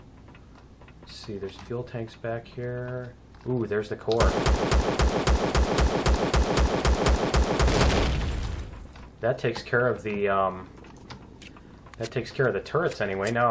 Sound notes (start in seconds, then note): 4.1 explosion; 4.2 pistol firing